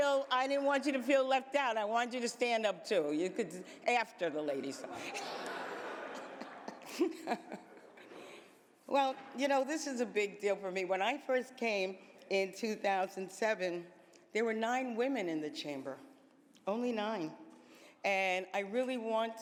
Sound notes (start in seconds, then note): 2.9 laughter